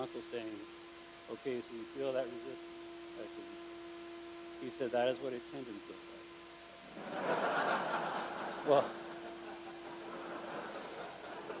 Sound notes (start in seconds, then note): 6.9 crowd laughs